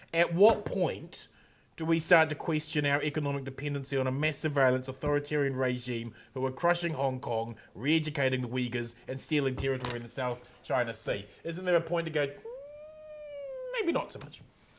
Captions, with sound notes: At what point do we start to question our economic dependency on a mass of violence, authoritarian regime. Who are crushing Hong Kong, re-educating the Uighurs and stealing territory in the south China sea. Isn't there a point to go-- (groaning) Maybe not so much?